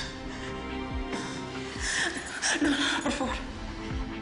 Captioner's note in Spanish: Ella jadea